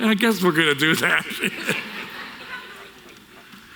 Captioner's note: laughter from audience